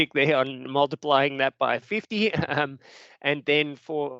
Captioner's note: chuckles